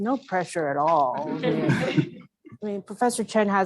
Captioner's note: laugh